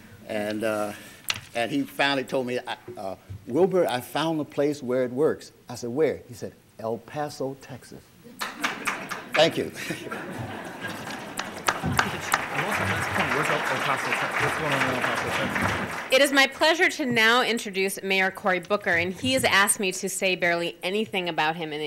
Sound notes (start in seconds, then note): 8.0 audience laughter; 10.8 applause